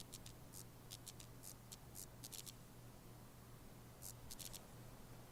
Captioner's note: electric light buzzes